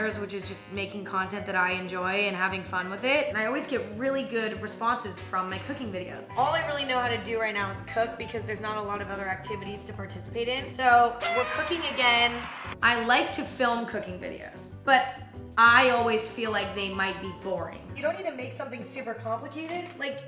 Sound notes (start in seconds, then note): 11.2 horn blares; 11.2 audience cheers